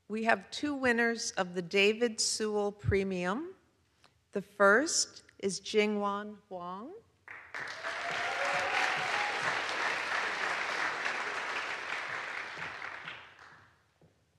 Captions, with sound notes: We have two winners of the David Sewall Premium. The first is Jingyuan Huang. (audience applauds) (audience cheers)